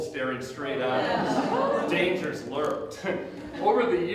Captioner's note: audience Gasps